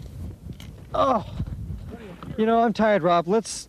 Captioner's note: groans